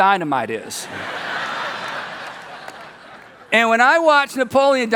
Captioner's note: people laugh